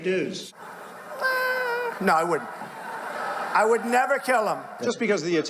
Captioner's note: laughing